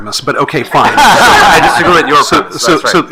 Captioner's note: attendees laughing